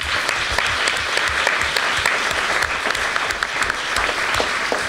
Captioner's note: applause